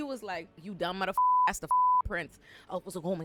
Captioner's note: beep